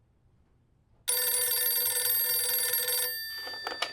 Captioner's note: phone rings